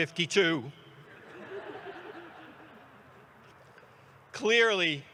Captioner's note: audience laughs